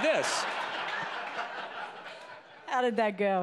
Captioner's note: laughing